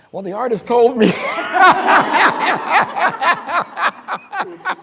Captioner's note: crowd laughing